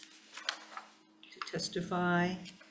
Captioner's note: paper rustling